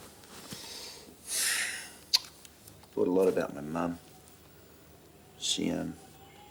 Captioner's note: sighs